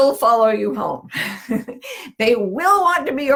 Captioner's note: laughs